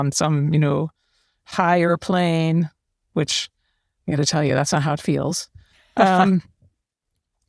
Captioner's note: laugh